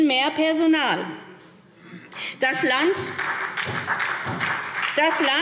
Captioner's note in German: Beifall SPD